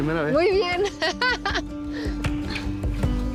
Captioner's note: laughs